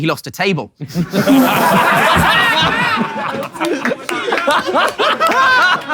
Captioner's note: people in room laughing